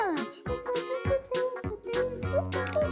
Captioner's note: humming